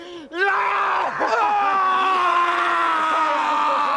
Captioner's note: screams